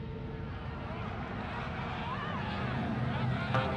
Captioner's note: crowd yelling